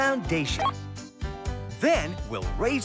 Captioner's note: beep